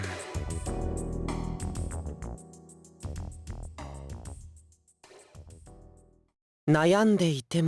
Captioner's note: silence